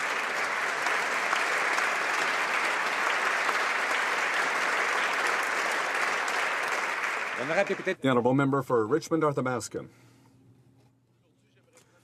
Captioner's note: speaking native language